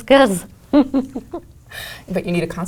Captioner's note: laugh